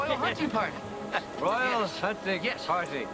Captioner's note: laughing